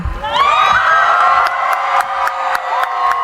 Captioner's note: cheering